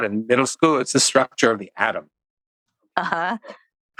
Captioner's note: laughs